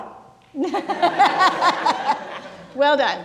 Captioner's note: people laughing